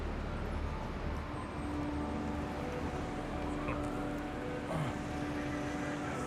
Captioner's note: gentle music; sirens wailing